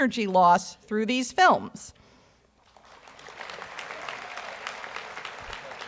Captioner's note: audience applauds